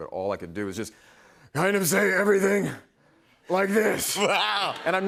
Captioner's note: hoarsely